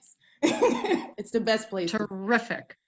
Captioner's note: laughs